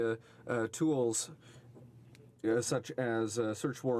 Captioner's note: speaking in french